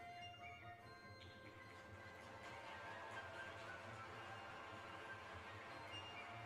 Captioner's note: applause